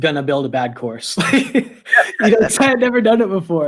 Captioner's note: laughs